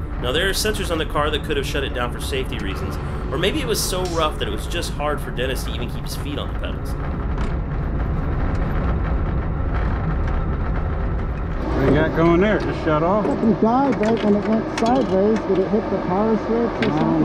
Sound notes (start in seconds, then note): 7.9 engine humming; 13.5 team murmuring